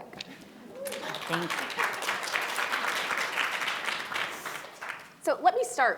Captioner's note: audience applauding